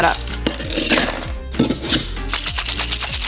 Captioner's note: ice cubes rattling into the cocktail shaker